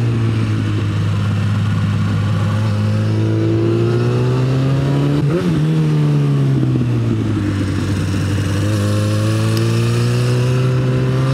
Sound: and other assorted exhaust noises

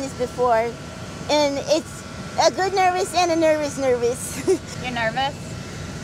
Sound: laughs

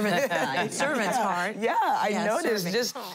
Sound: laughing

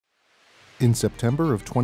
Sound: sound: water rushing

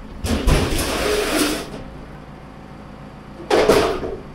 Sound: metal scraping

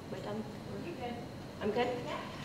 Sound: voiceover

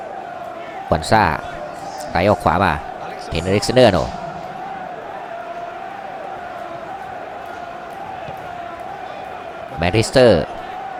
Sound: claps hands

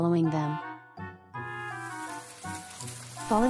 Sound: sound of fallen leaves

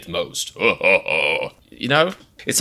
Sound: evil laugh

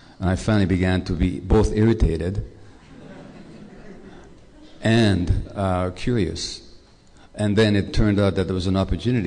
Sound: laughter

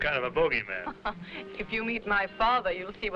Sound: chuckling

